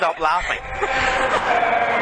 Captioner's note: laughter